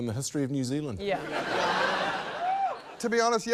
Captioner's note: laughter